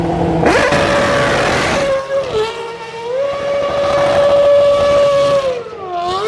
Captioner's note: car engines continue revving